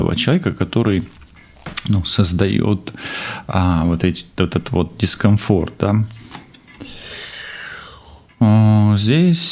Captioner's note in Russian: вздыхает; тяжело вздыхает